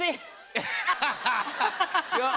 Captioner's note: laughter